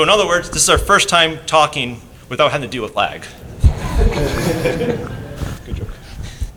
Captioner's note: laughter